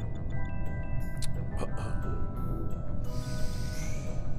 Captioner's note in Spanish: carraspea